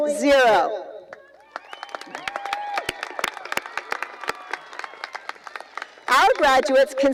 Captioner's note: cheering and applause